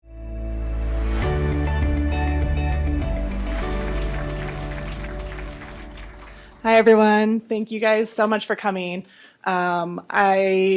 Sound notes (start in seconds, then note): 0.5 logo music; 3.0 applause